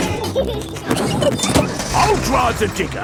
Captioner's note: peppa and george laughing